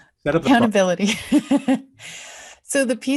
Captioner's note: chuckles